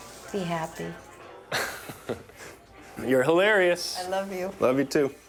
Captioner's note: chuckles